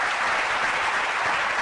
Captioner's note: applause